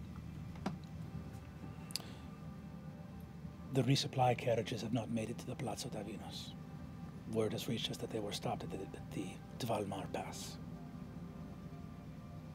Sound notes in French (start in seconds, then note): none